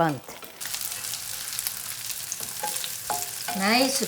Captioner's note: pan sizzling